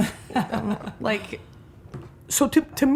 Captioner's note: laughing